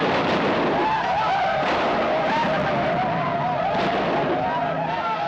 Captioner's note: war cries